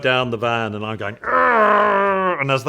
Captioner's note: growling